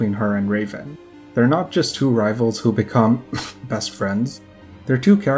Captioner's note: cough